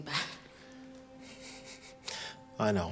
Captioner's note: Alex laughing